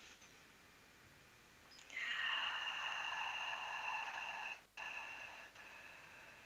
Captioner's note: breath